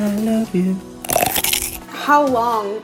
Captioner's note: cronch